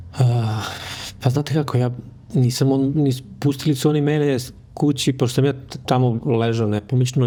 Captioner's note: sigh